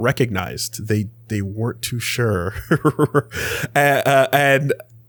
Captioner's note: laughs